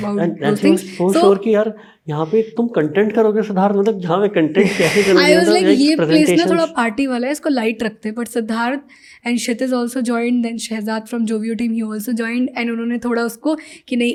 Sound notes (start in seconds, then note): 5.1 speaks in Hindi